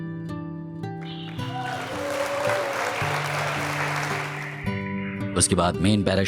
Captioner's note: cheers and applause